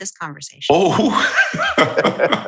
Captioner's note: laughter